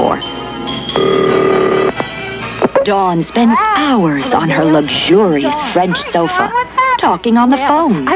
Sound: phone rings

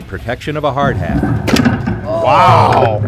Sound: sledgehammer rattling

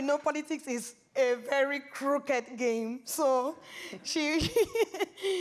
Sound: laughs

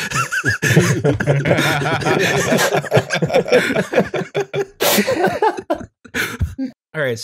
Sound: laughter

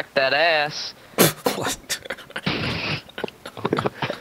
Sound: laughter

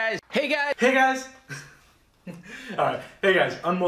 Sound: chuckling

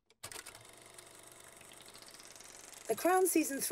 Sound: film whirring

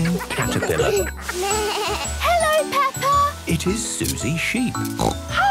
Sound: bleating; snorting

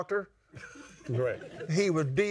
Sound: laughs

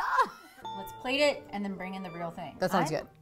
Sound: ding

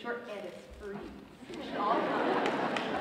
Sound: audience laughs

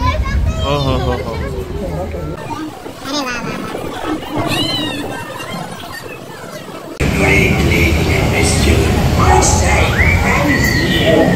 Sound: sounds from the ride

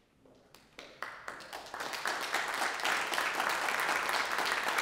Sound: audience applauding

